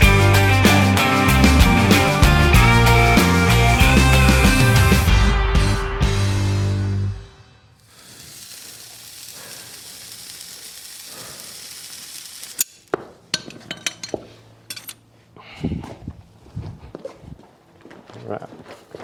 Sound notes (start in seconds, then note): 7.8 hot shoe sizzling ASMR goodness